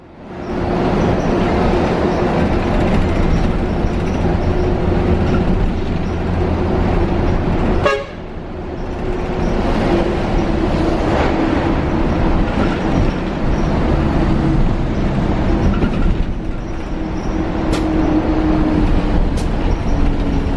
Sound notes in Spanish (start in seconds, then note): 9.9 sonido del bus articulado Metalpar Iguazú - Mercedes Benz